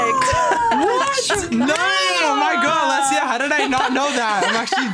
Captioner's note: cheering